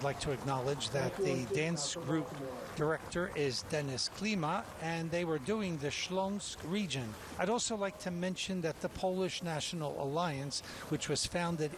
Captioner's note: cheers and applause